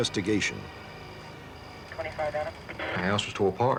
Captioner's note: police chatter